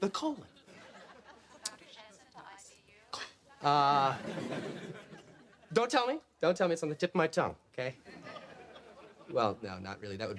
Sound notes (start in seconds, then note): 4.0 audience laughs